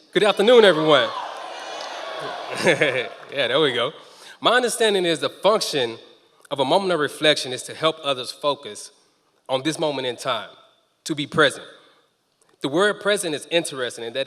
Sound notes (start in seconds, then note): 1.9 members of the audience cheering